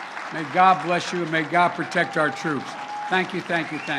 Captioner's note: applause